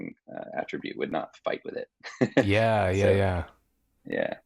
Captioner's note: chuckling